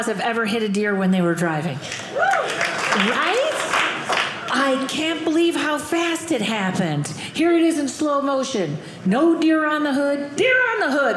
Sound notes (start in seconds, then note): 1.9 audience applauding